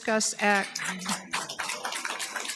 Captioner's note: audience applauding